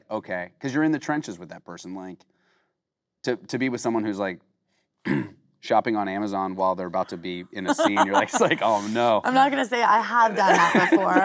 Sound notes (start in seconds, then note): 5.0 clearing throat; 7.6 Kate laughing